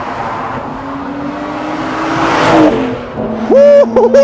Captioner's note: car engine roaring